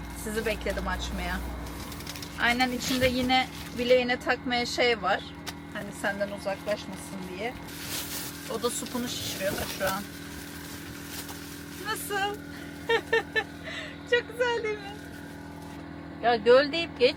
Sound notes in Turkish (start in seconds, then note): 12.8 kahkaha